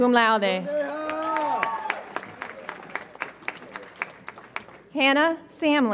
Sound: audience applauds and cheers

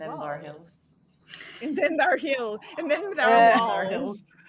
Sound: group chattering

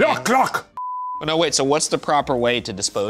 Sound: beep

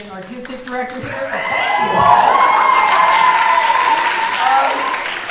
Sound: audience cheering

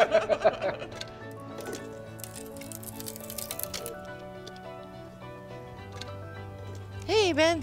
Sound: both laughing; light music continues; wood crackling

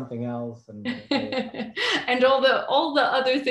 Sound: laughs

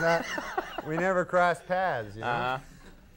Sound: Conan laughing

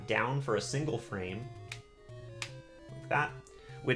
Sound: D-Pad clicks

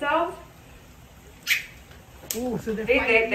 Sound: monkey squeaking

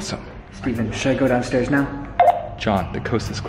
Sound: beep

